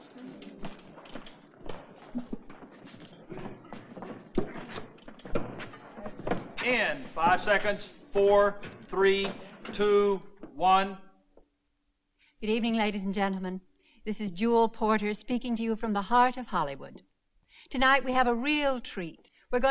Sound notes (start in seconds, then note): 0.1 equipment softly clattering; 1.4 crew softly chattering